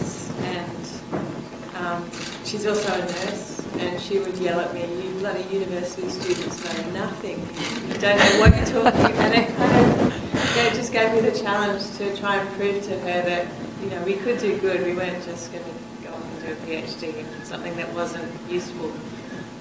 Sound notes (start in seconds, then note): 9.3 laughter